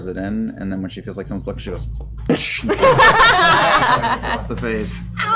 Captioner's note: slaps